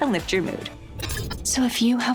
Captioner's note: Dr. Brain whispering